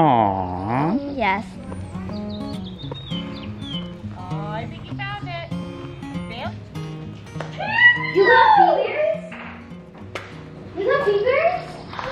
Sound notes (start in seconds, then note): 7.6 screaming